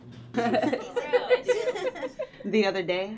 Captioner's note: giggling